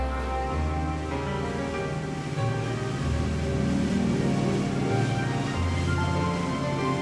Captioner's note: boat engine humming; gentle orchestral music